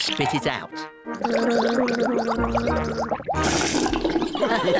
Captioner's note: gargles; all laugh